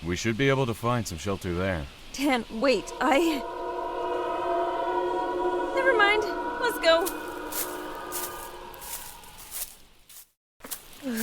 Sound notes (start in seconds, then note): 6.0 shrieks in the distance